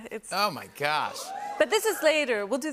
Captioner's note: cheering and whistling